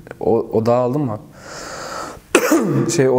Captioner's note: cough